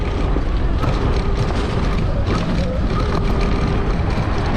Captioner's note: bike rumbling